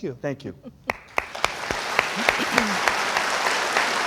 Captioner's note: crowd applauds